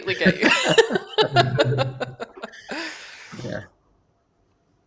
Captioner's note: laughter